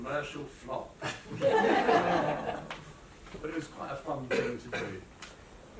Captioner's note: laughter